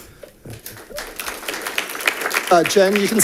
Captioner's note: audience applauding